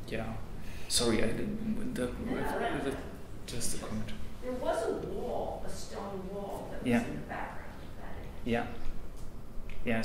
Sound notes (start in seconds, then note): 3.0 stammers